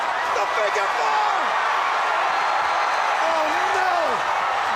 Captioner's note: crowd cheering